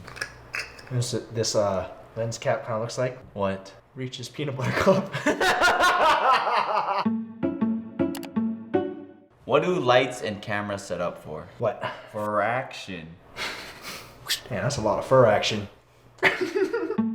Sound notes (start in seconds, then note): 4.6 laughter; 7.0 light string music continues; 7.0 light string music plays; 8.1 mouse click; 16.2 laughter